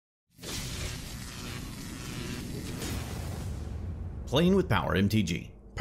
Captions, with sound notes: (electricity crackles) - [Voiceover] Playing with power MTG,